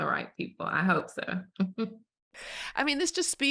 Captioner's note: chuckles